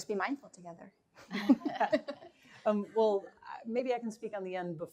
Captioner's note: laughter